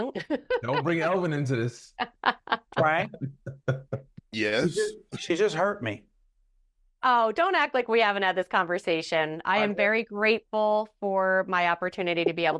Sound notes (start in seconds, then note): 2.0 laughing